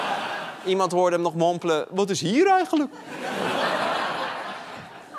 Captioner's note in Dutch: gelach; gelach